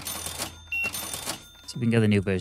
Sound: beeping

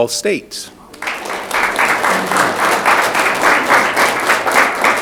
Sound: audience clapping

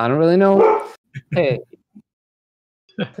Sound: dog barking

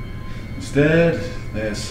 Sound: disgustedly

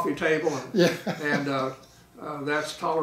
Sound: laughs

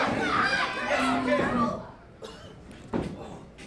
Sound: fans cheering

